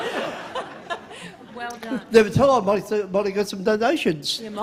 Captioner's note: laughter